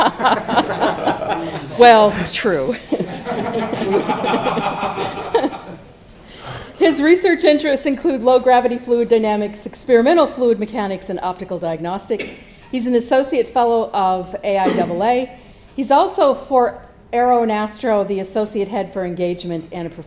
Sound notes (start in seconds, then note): 0.0 laugh